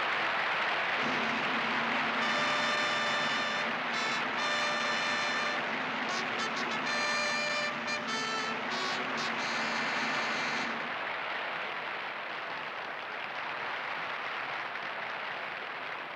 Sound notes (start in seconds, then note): 0.0 drumroll, fanfare plays; 7.2 cheers and applause